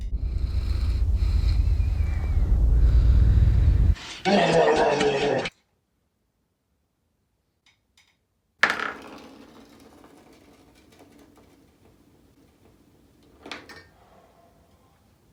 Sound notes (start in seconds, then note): 0.0 heavy nasal breathing; 4.2 angry grunting